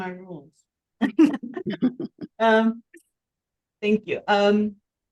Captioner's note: chuckling